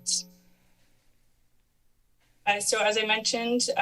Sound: pause

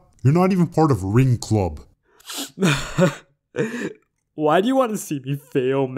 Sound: emotional sigh

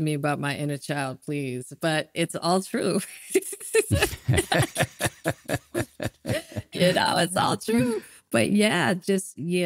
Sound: laughing

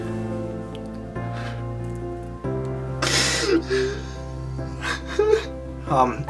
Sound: sobbing

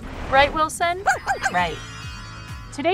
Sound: barking

